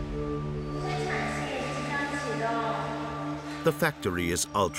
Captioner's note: woman speaking foreign language